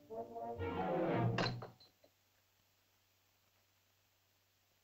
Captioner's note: spear clatters